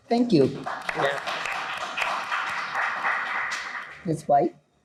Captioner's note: audience applauds